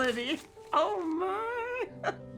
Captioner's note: laughing